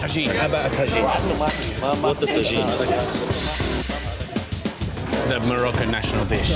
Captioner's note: crowd chatter